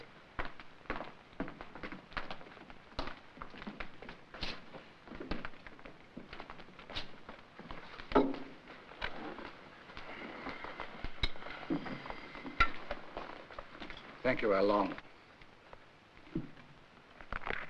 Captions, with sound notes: (dishes clattering) - Thank you, Al-Long.